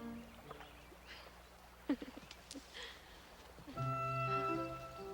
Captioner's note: Mandy laughs